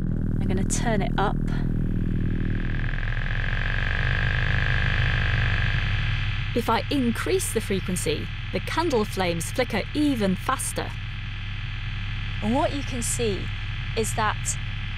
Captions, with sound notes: I'm going to turn it up. (VIBRATIONS GET LOUDER AND BECOME MORE INTENSE) If I increase the frequency, the candle flames flicker even faster. What you can see is that